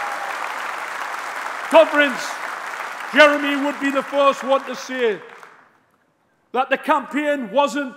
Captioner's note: applause; cheering